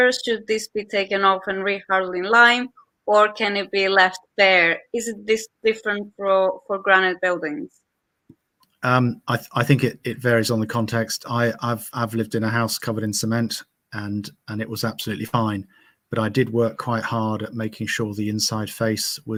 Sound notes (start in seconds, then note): none